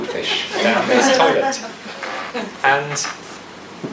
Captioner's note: audience laughs